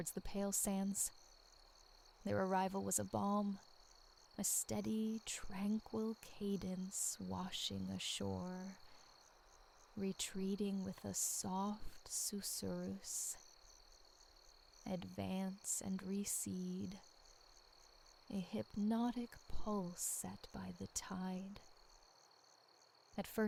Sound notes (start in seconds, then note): 12.5 susurrus